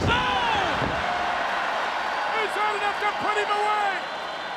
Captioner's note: crowd cheering